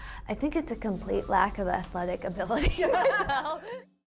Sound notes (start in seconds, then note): 2.6 both women laughs